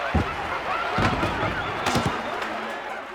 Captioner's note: set crashes; monkeys jabbering, audience applauding